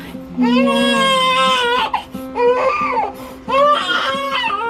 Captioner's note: baby crying